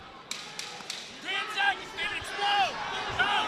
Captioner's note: crowd noise